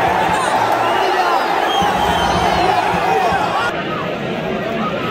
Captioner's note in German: Beifall